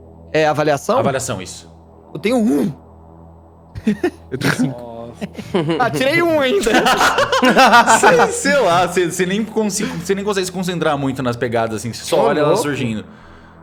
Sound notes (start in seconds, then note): 3.8 giggling